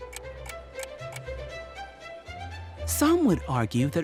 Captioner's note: clock ticking; upbeat music